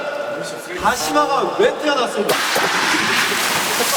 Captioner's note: rubbing